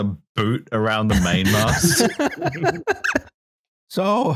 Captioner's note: laughter